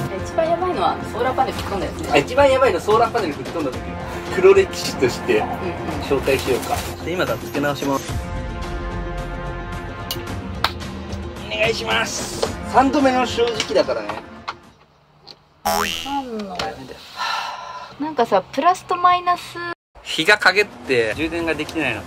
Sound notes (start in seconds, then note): 17.1 sigh